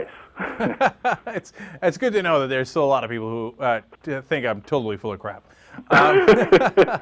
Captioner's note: laughs